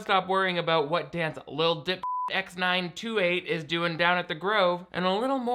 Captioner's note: beep